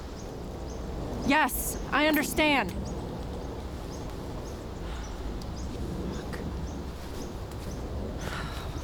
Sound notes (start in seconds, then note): 4.2 sighs